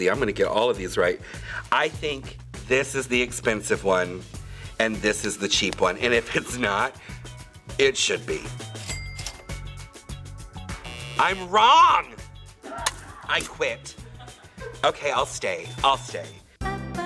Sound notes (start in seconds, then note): 8.8 cash register dings; 10.7 buzzer buzzes; 16.7 light music; 16.7 woman singing